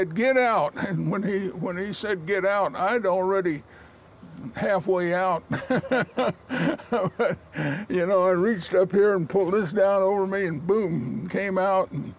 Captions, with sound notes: get out, and when he said get out, I'm already halfway out (laughs) you know, reached up here and pulled this down over me and boom, I came out.